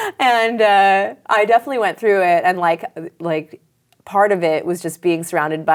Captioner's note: laughs